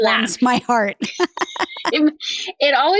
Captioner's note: laughs